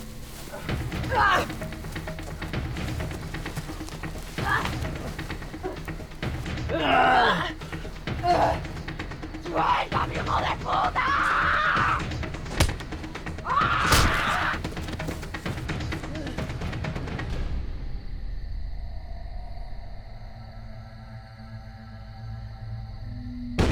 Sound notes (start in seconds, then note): 1.2 fight sounds